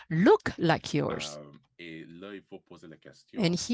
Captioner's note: speaking french